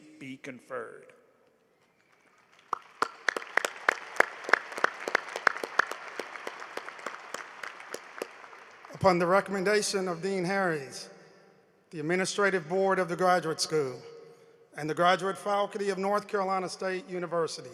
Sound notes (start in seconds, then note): 6.1 applause